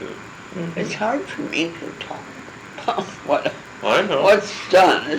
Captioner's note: laughing